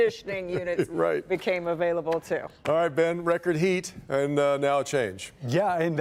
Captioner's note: laughter